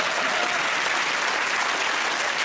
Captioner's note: applause